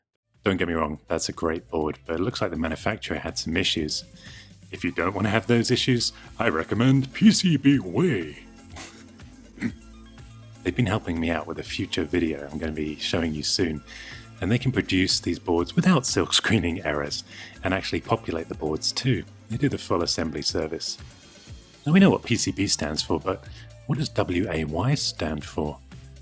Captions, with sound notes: Don't get me wrong, that's a great board, but it looks like the manufacturer had some issues If you don't want to have those issues, (American accent) I recommend PCBWay! (laugh) Ahem. They've been helping me out with a future video that I'm gonna be showing you soon And they can produce these boards without silk-screening errors and actually populate the boards, too They do the full assembly service Now we know what PCB stands for but what does W-A-Y stand for?